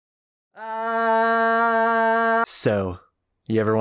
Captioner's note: distant screaming